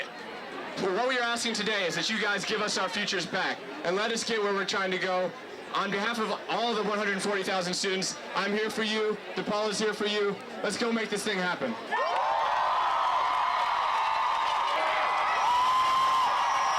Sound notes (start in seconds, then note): 11.8 massive cheering